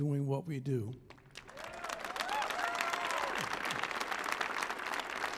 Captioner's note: audience applauding